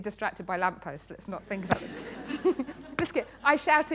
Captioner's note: laughter